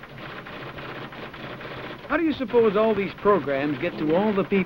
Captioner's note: typewriter clicks and clacks